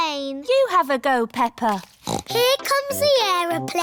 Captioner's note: snorts